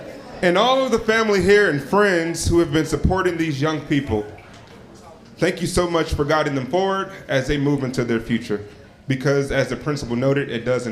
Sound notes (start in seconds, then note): none